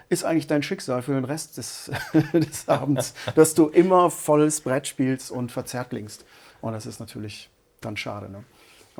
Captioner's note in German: gelächter